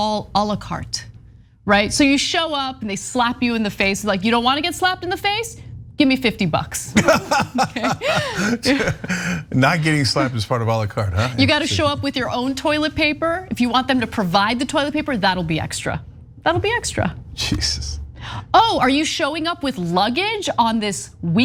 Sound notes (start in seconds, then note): 6.9 laugh